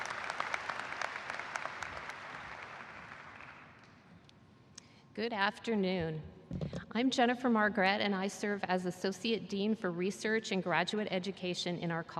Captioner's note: applause